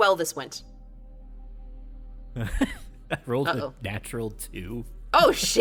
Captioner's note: chuckles